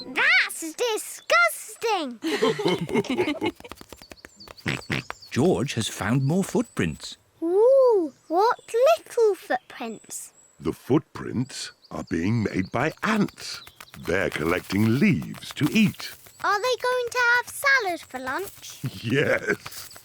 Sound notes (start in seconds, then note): 2.2 mummy and daddy pig laugh; 4.6 oinks; 18.8 laughs